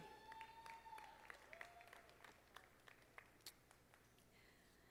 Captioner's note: audience applauding